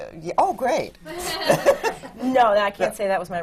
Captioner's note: laughter